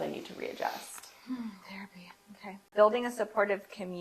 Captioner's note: sighs